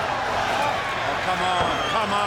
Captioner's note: Hogan faintly speaking